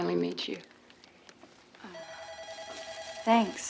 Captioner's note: phone ringing